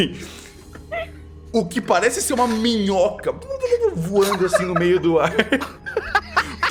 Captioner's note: laughs; flop flop; everyone laughing